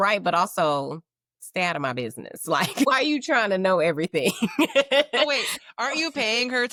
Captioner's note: laughing